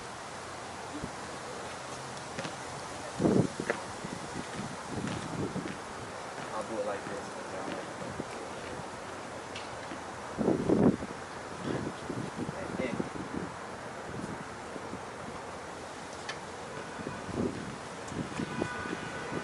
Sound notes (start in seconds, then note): 9.6 wind howling